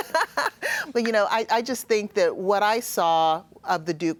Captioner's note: laughs